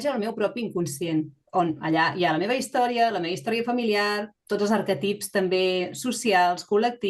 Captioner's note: continues speaking in Catalan